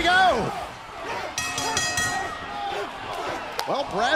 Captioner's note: bell ringing